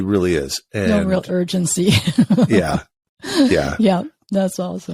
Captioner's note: laughs